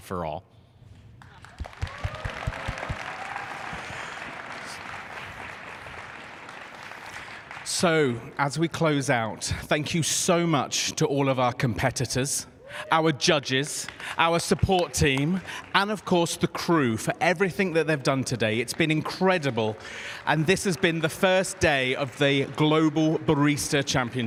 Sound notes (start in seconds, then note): 13.4 applause